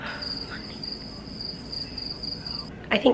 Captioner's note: crickets chirping